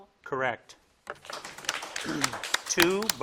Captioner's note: crowd claps